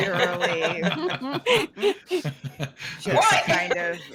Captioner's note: all laughing